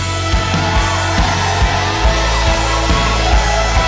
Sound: loud cheers

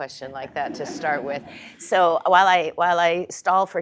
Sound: laugh

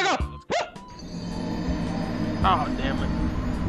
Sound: Dark Souls death

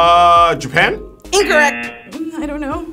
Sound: wrong buzzer rings

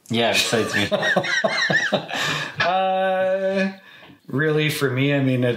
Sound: both laughing

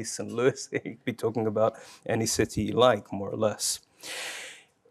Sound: laughs

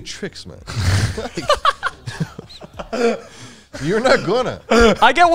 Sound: all laughing

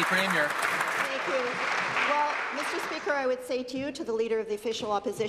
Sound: applause

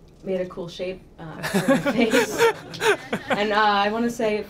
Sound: laughter drowns out speaker

